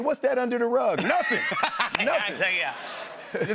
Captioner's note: laughter